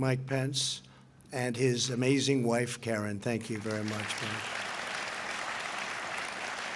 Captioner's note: applause